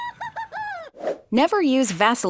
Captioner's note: laughing